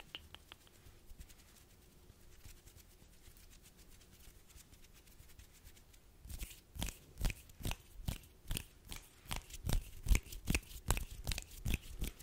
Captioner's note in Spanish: Sonidos de manos